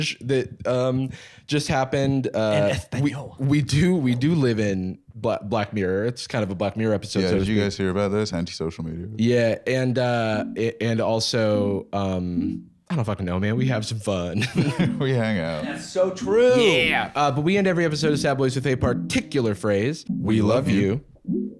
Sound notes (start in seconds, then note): 14.3 laughs